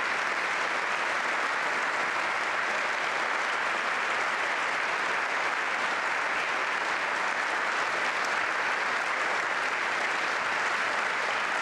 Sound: applause

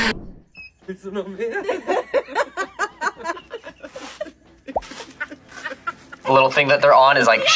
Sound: people laughing

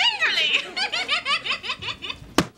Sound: laughing

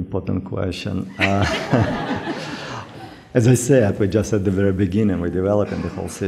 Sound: laughter

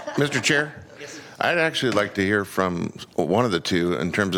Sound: laughter

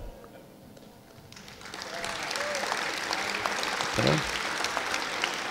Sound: audience applauding

